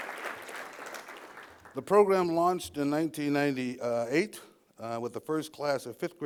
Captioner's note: applause